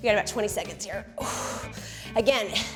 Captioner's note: exhales